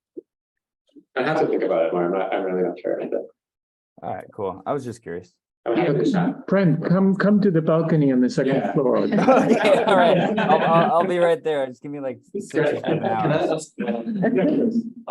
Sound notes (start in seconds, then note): 9.0 laughing